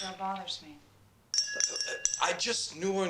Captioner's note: ice clinking